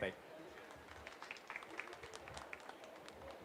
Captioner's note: applause